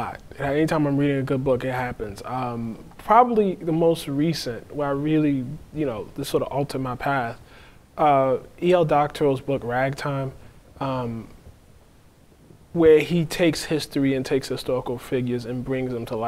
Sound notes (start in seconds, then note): none